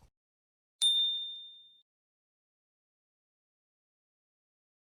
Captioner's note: bell dinging